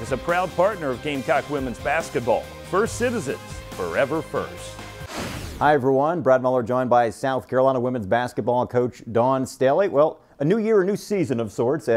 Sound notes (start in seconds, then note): 4.8 air rushing